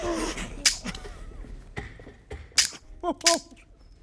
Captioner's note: clicking